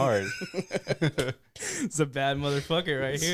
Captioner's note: laughing